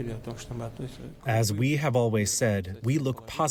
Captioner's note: through translator